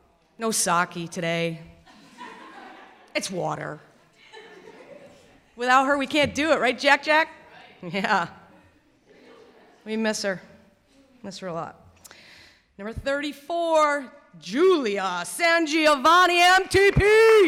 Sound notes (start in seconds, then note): 16.6 clapping